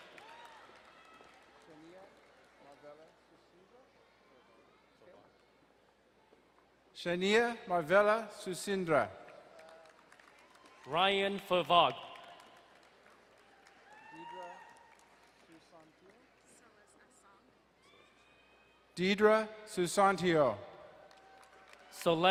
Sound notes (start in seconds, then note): 0.0 distant cheering; 9.2 crowd cheering and applauding; 13.4 distant cheering; 20.8 distant cheering